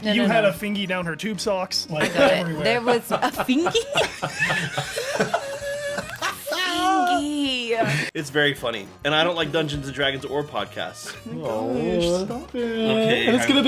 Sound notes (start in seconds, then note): 4.2 laughs